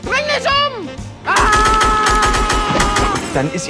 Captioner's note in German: Schuss-Geräusche